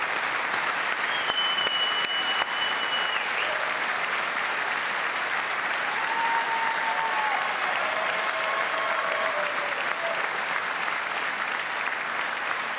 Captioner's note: applause